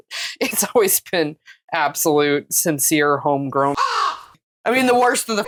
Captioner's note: caw; meow